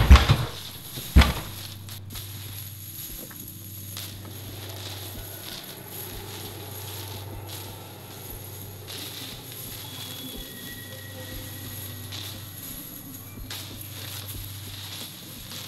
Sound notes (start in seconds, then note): 0.0 door Shuts; 9.3 shivering & Sobbing